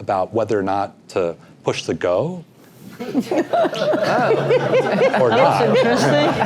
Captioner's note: laugh